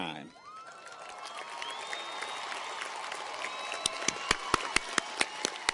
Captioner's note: audience cheers and applauds